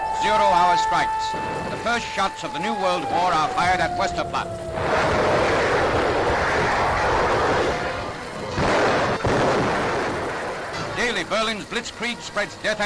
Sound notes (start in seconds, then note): 0.0 alarm blaring; 4.8 cannon booms; 4.8 fire hissing; 8.4 artillery blasting